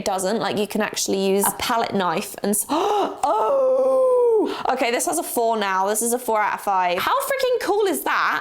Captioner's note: gasp